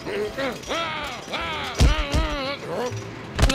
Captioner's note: shouting